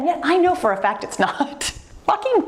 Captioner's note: laughs